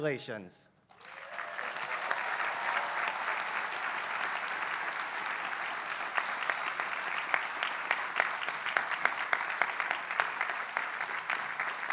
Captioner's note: applause